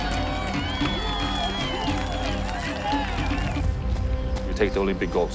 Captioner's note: cheering